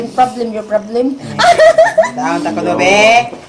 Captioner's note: laughs